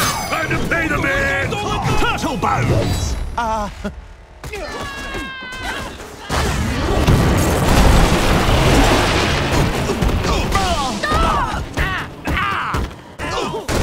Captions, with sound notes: - Time to pay the man! - Turtle bones! Uh. [screaming] [groaning]